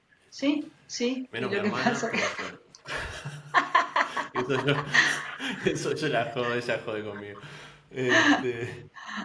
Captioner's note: laughs